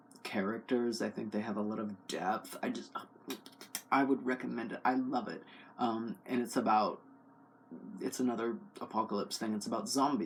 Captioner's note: kisses